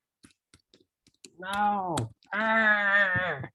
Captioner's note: grunts